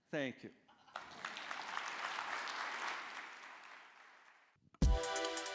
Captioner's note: applause